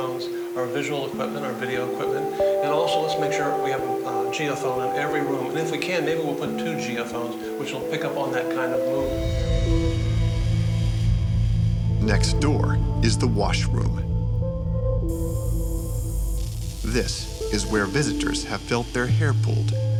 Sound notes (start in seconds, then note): 12.0 voiceover